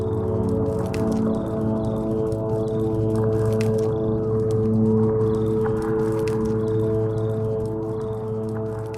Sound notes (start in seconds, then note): 0.2 tranquil music; 2.2 birds singing